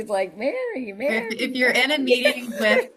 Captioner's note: laughs